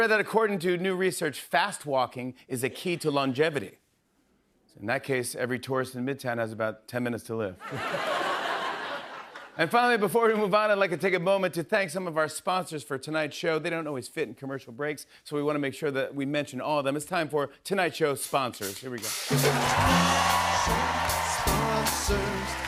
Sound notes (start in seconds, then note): 7.6 laughter